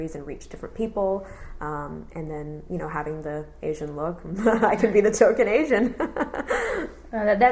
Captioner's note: laughs